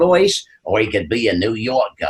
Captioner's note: in deep Italian-American accent